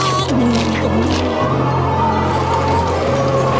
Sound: wind howling

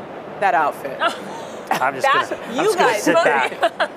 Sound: laughs

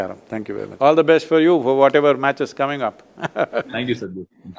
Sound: laughs

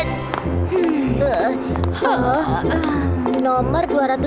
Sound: Choco sighs

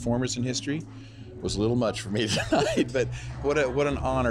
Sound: laughs

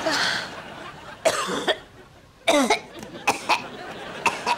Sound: coughing

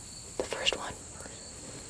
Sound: whispering

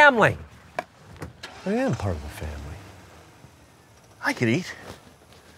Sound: car starting

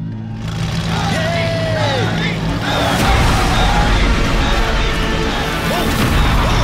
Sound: crowd Cheering

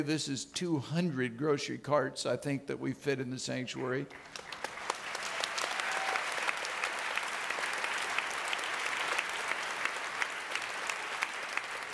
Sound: audience clapping

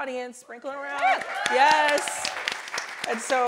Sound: audience applauding

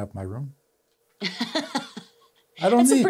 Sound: laughs

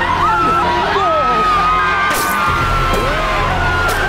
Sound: teacher groans

